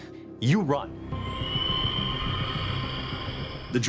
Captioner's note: creature screeches